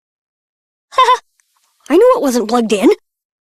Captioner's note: giggles